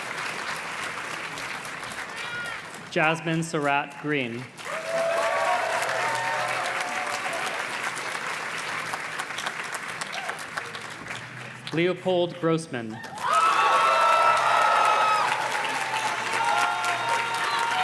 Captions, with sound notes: Jasmine Sarat Green. (audience cheers and claps) Leopold Grossman. (audience cheers and claps)